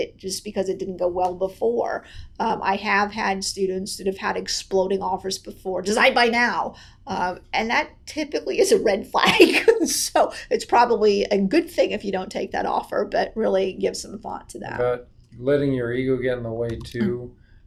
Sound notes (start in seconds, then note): 9.4 laughs